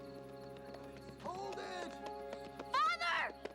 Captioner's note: hooves clopping